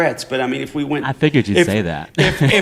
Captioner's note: laughter